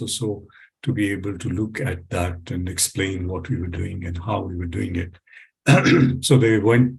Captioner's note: coughs